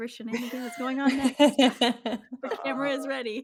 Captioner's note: chuckling